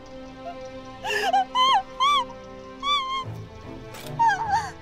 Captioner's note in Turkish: Bağırma sesi